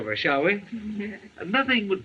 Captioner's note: laughing